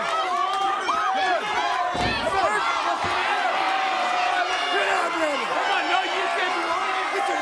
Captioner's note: crowd chatter; crowd cheering